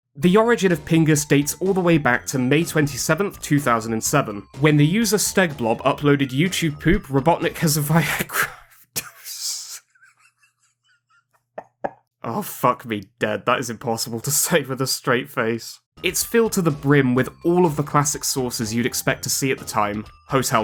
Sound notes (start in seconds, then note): 9.6 sounds of a grown man laughing over such immature words